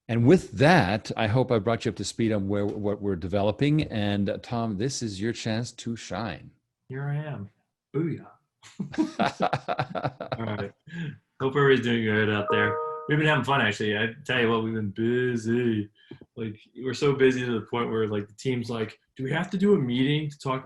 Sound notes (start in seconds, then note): 8.8 laughs